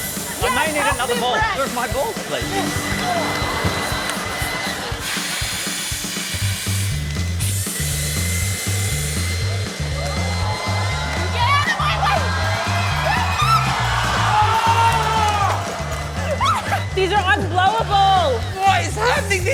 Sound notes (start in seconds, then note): 6.5 fast-paced music plays; 10.0 audience gasp; 12.8 exclaims